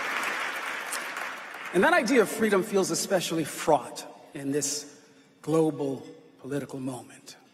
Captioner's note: applause